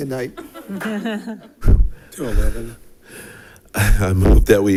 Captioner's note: audience laughing